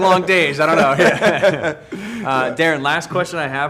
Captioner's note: laughing